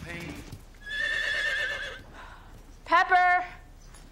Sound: horse whinnying

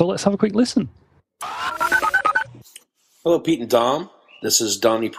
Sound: voicemail starts

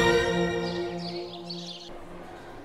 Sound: birds chirping

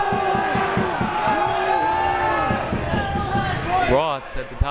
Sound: crowd members shouting

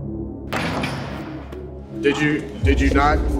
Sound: ball dunking

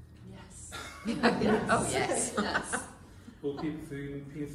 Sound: laughter “Oh, yes”

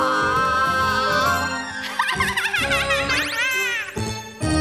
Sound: witch cackles

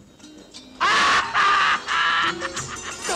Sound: laughs

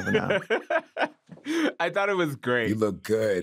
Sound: laughing

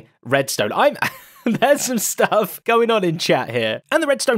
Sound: laughs

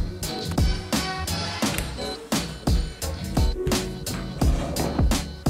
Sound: door clicking

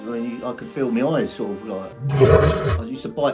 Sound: monster groaning

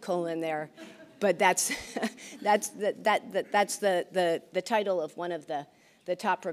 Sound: laughs

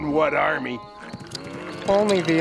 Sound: moaning

